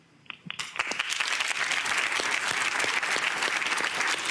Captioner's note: crowd clapping